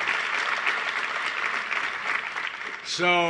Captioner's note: applause